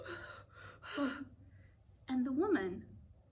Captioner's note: gasp